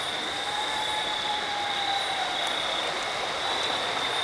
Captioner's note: water rushing